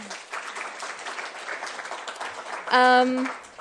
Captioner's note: clapping